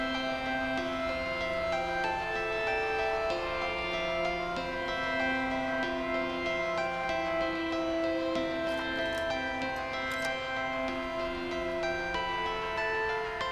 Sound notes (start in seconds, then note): 8.6 lock clicks